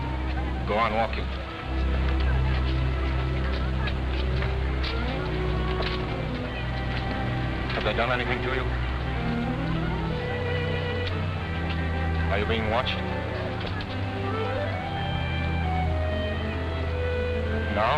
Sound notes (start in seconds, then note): none